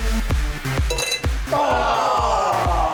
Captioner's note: upbeat electronic music; glasses clinking